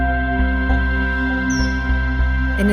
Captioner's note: kingfisher calls